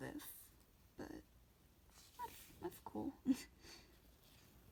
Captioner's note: laughs